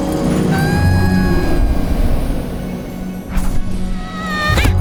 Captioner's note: screaming